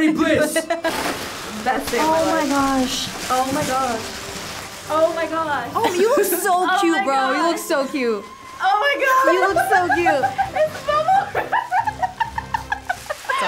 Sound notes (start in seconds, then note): 1.0 suit rustling; 12.1 laughs